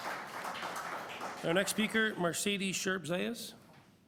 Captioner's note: applause